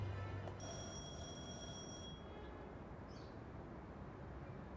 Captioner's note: doorbell ringing